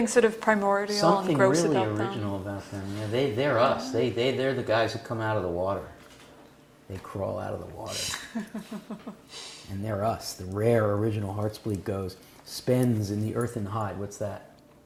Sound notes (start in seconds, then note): 8.1 laugh